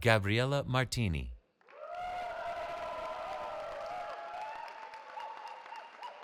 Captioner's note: cheering